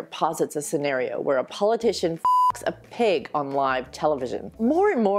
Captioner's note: beep